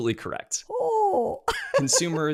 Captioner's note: laughs